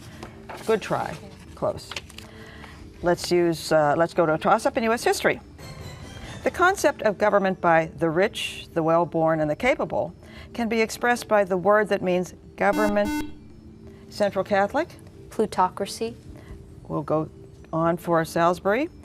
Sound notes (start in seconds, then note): 12.7 buzzer